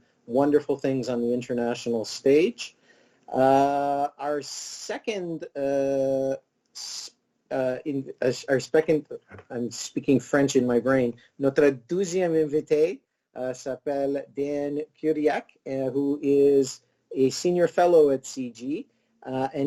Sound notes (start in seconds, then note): 11.8 speaking in foreign language